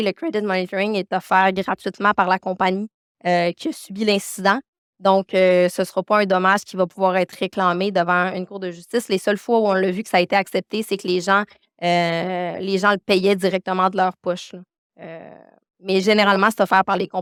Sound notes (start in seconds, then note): 3.9 continues speaking French